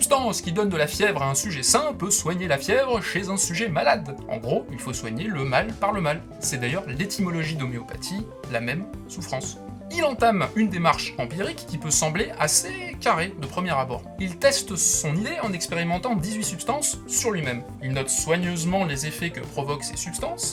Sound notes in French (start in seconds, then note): none